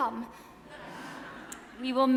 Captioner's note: audience laughs